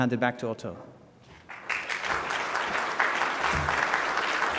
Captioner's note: applause